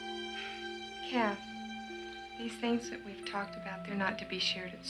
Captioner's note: sighs